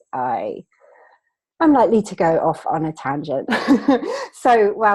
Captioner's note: laughing